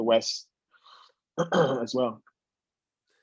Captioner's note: cough